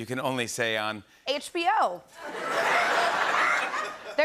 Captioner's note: laughter